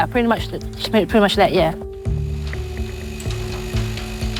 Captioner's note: machine whirring